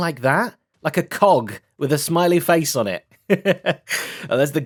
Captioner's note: laughs